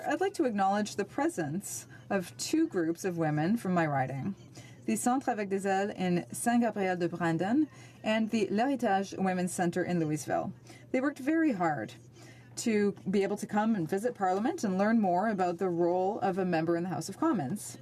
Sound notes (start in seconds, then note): 8.7 speaking French